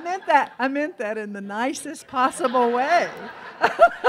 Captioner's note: laughs